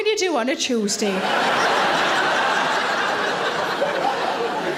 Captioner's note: audience laughing